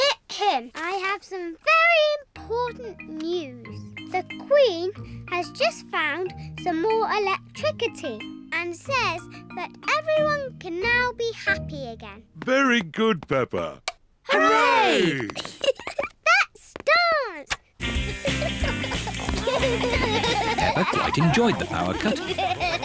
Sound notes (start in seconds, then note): 14.9 giggles